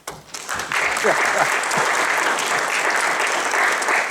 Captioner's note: applause